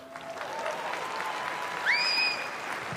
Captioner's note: applause